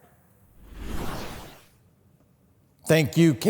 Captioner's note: whooshing sound effect